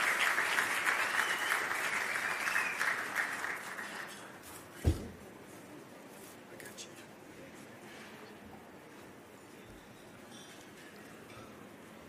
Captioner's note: applause